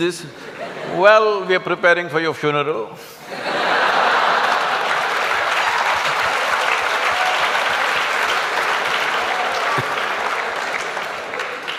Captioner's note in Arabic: ضحك وتصفيق